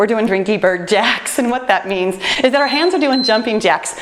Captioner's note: timer beeps